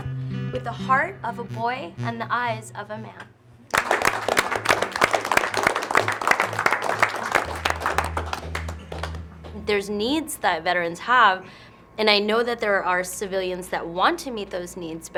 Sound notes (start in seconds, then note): 3.7 clapping